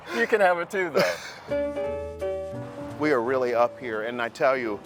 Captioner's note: laughs